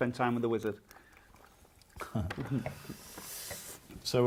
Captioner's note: guy laughs